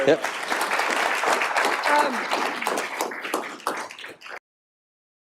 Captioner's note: audience clapping